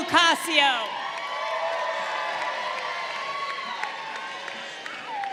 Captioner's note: crowd cheering